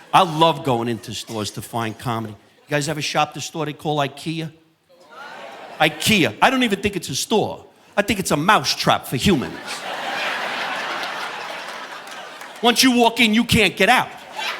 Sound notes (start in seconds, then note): 5.0 group clamoring; 9.2 audience laughing